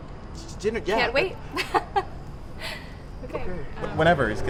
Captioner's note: nervous laugh